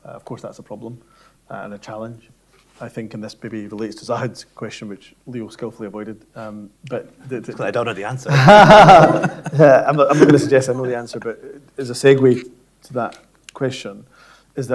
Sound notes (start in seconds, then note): 8.3 everyone laughing